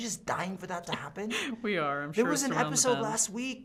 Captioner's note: laughing